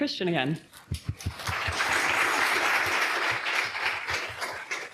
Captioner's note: audience applauds